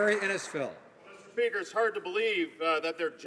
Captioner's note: some Applause